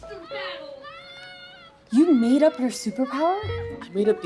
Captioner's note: more screams